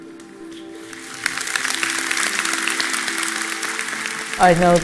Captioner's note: applause